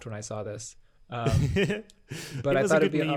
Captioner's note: laughs